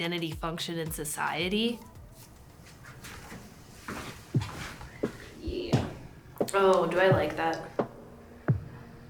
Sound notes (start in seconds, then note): 5.4 footsteps